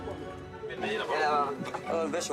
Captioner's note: Portuguese spoken audio